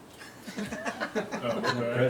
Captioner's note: laughing